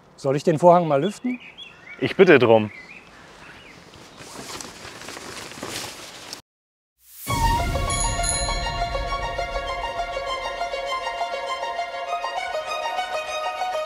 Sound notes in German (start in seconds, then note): 3.8 Rascheln; 6.0 Klingeln